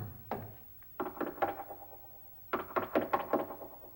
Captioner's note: hollow knocking